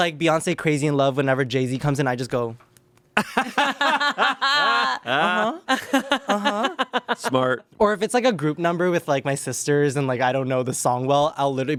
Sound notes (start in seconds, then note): 3.2 everyone laughs